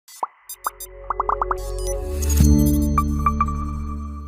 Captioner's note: electronic tones